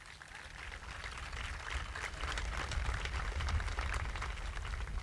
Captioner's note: audience applauding